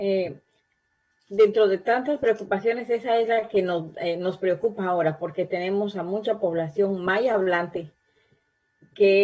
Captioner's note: spanish